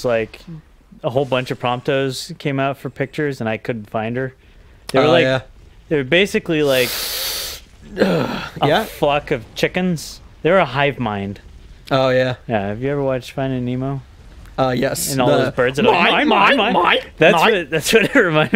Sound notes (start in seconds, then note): 6.8 sucks in deeply; 15.7 chuckling; 16.6 start yelling "MINE MINE MINE"